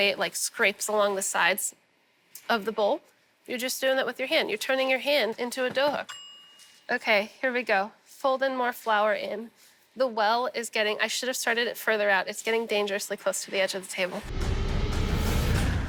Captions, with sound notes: it, like, scrapes along the sides of the bowl, you're just doing that with your hand. You're turning your hand into a dough hook. [BELL DINGS] OK, here we go, folding more flour in. The well is getting-- I should have started it further out. It's getting dangerously close to the edge of the table. [DRAMATIC MUSIC]